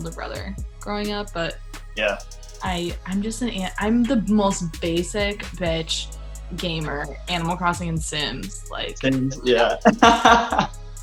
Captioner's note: laughter